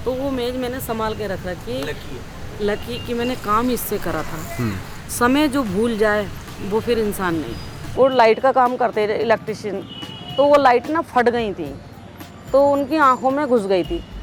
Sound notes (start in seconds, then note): 4.5 struggles